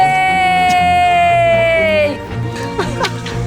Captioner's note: cheering